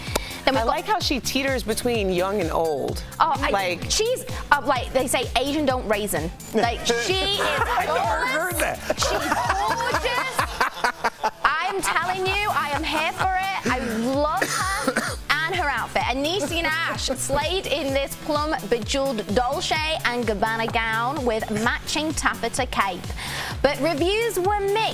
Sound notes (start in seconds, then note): 16.2 laughter